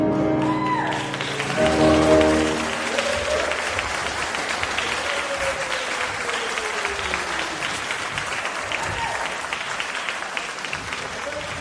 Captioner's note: applause